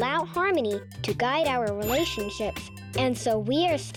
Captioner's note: check mark rings